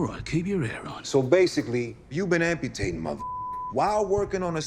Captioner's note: beep